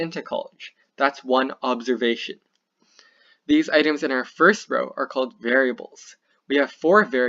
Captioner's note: click